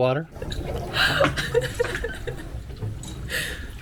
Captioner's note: laughing